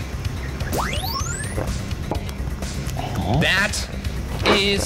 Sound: electronic whoosh

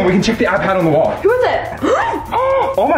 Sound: gasps

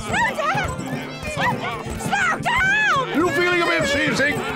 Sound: yells

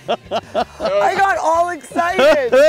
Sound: laughs

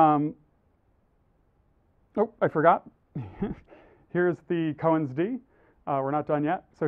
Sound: laugh

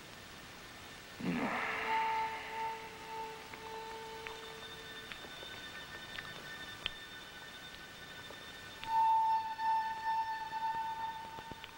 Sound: groan

